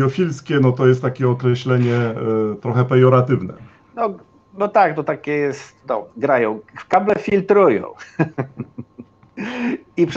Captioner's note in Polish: śmiech